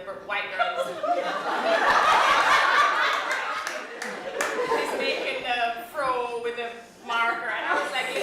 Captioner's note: laughter